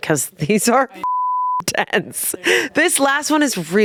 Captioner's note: beep